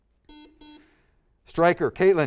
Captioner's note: buzzer